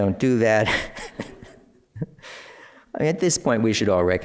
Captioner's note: laughter